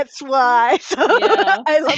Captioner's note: laughs